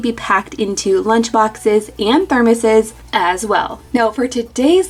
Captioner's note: murmurs